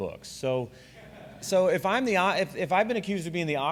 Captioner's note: laughter